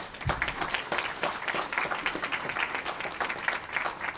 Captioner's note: applause